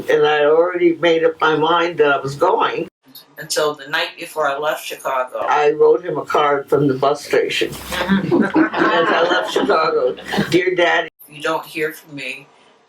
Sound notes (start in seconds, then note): 7.9 audience Laughter